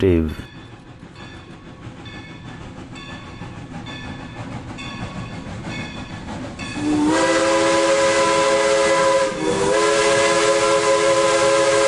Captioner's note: LOCOMOTIVE bell and WHISTLE